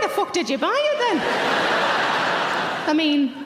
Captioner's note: audience laughing loudly